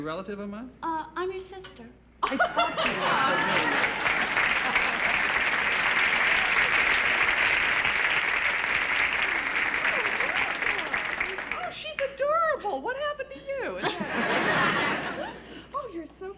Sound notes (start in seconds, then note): 2.5 applause